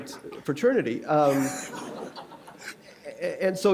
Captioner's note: laughter